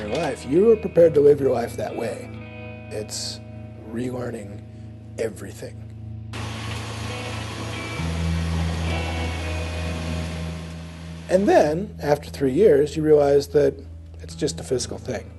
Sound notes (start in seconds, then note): none